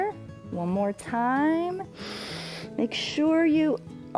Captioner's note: inhales